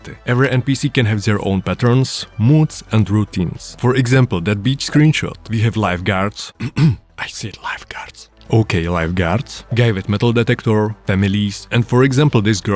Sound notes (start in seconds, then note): 6.6 awkward cough; 7.2 whispers